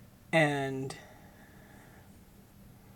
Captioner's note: none